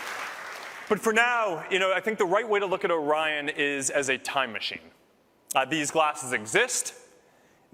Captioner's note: applause